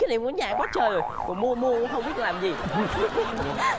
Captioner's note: laughing